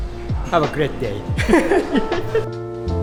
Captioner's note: chuckles; bright upbeat music